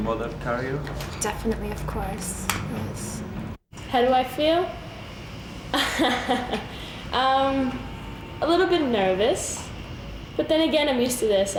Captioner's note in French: rires